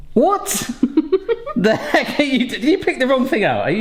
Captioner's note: quiet laughter